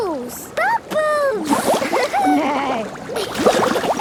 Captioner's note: giggling; giggling, neighing